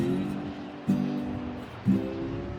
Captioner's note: high winds